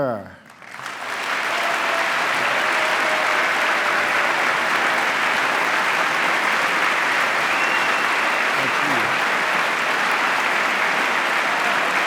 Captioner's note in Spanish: aplauso